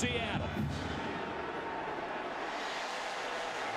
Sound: crowd cheering

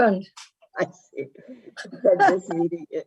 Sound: laughing

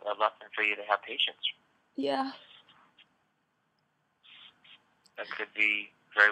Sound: laughing

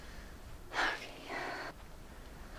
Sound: sigh then whisper

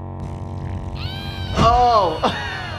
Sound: everyone begins farting

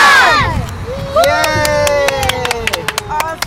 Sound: cheering

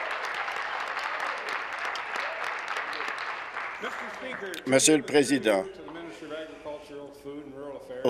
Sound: applause

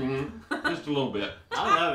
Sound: laughs

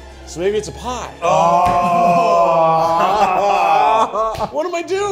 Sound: all groaning

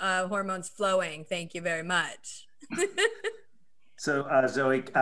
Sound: laughs

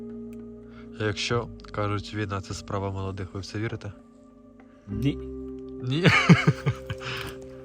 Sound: laughter

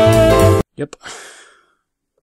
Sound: sighs

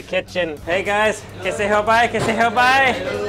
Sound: speaking foreign language

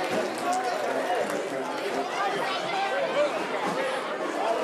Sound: voices chattering

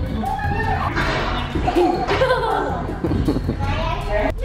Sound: laughs

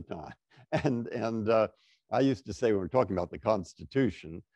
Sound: laughter

